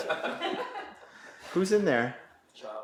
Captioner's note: people laughing